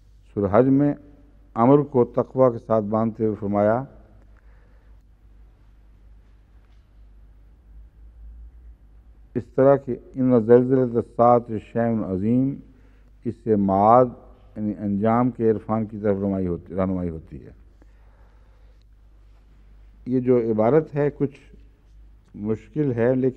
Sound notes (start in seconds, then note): 9.2 Arabic